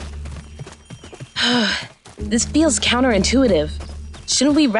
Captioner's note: sighs